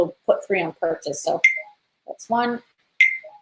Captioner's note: beep